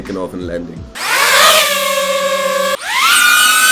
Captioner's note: drones screaming